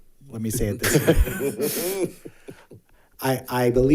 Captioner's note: board Members laughing